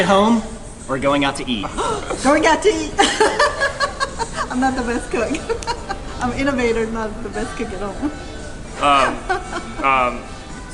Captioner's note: laughs